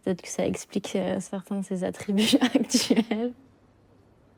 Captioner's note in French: rires